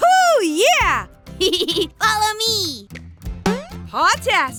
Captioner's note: laughs; boing